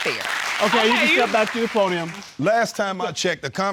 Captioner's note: audience laughing